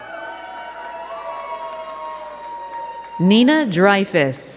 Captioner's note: crowd cheering and clapping